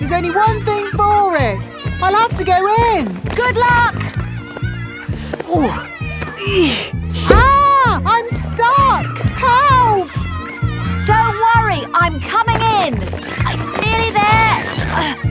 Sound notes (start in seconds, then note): 5.5 grunting; 14.4 grunting